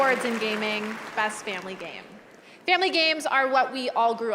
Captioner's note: cheers and applause